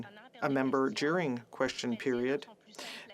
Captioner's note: speaking French